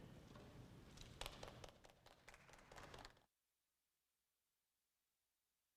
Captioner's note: audience applauds